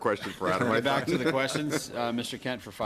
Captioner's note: laughter